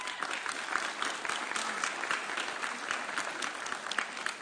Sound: audience cheering

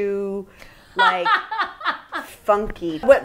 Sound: laughing

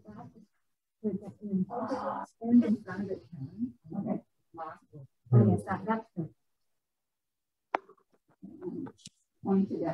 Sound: mumbled talking over Zoom

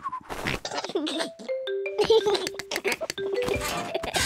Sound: giggles

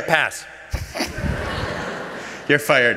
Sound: laughter

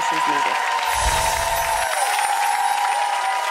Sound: applause

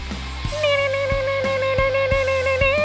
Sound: imitating a rock guitar

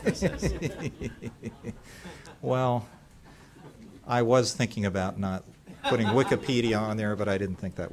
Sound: laughter

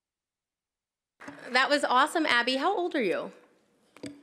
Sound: applause

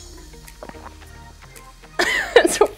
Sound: swallows; laughter

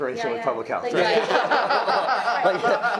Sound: many laughing

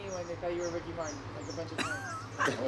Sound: laughter

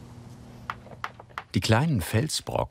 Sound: tapping

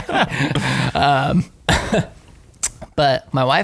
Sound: laughter

